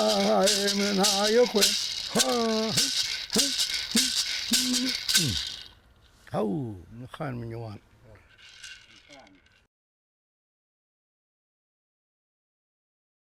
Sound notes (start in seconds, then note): 6.5 speaking in foreign language